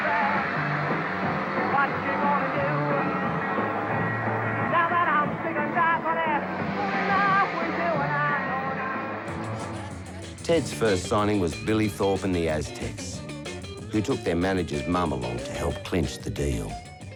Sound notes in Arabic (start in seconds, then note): 10.3 تصرخ الفتيات